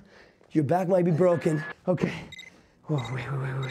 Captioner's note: beeping